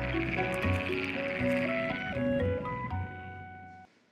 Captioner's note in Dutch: kikkers brullen